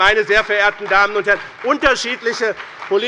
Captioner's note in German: Beifall bei dem BÜNDNIS 90/DIE GRÜNEN und der CDU